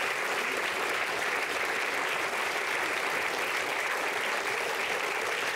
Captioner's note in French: Applaudissements